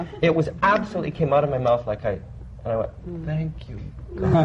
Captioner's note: laughter